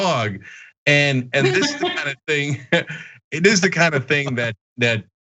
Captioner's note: laugh